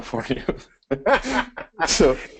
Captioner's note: both laughs